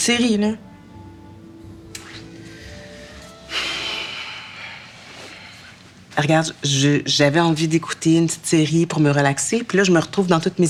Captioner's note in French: Soupir